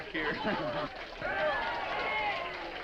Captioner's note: all laughing; all applauding